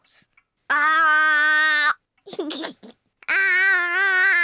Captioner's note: giggles